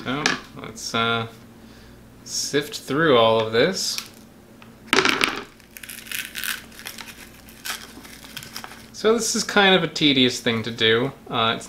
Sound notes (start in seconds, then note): 5.0 plastic clatters; 5.5 gourd rustles